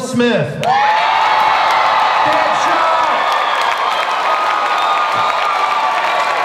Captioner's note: audience cheering and applause